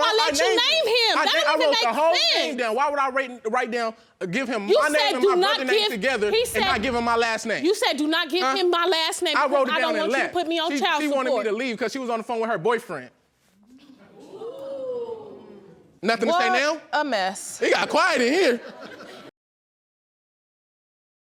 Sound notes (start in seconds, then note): 14.2 audience exclaiming in shock; 17.8 audience laughing